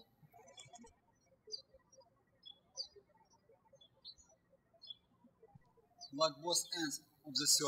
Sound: birds chirping

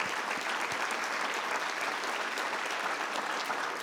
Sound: all clapping

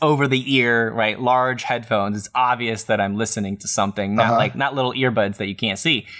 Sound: laughter

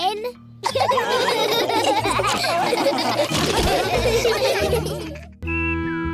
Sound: laughter

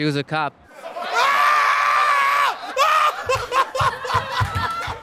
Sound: laughter

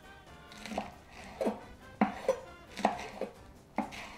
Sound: chopping

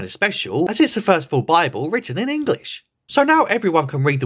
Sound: English

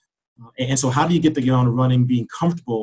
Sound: murmurs

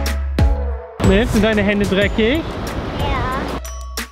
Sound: speaking German

